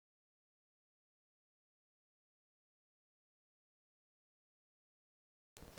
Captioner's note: audio cut